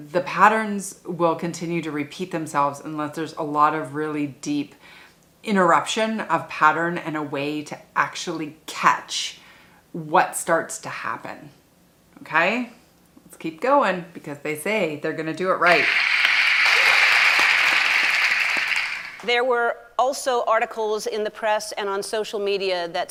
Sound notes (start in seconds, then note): 15.6 audience applauding